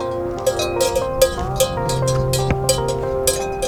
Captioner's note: collar bells tinkling